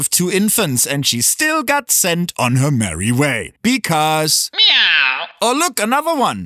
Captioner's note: meow